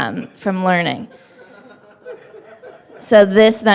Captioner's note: laughter